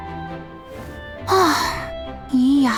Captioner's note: sigh